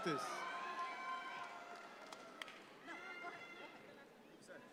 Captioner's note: audience cheering